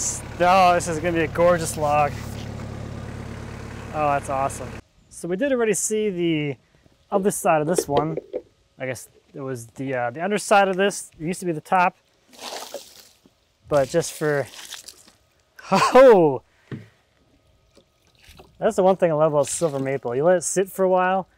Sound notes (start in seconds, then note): 17.6 water splashes